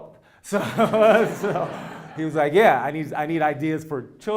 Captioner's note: laugh